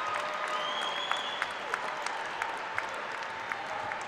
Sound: applause

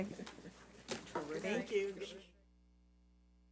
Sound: people chattering

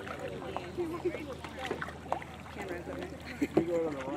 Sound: laughter

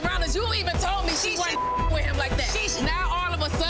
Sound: beep

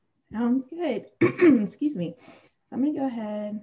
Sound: clears throat

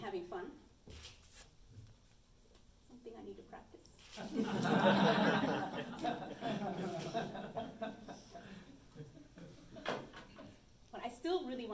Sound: under breath; audience laughs

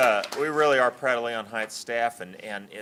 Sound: applause

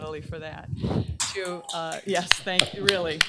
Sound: applause

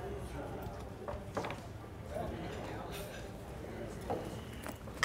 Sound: patrons murmuring

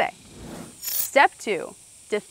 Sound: screen whooshing

